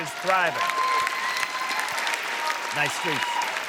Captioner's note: audience cheering and applauding